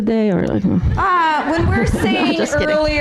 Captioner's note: audience laughing